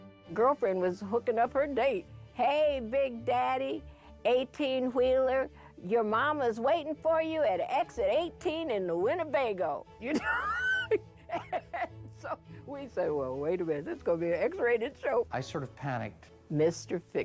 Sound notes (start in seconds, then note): 11.2 laughing